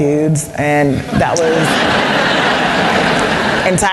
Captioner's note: laughter